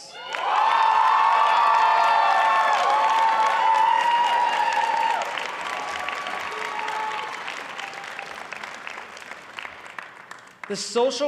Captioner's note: applause and cheering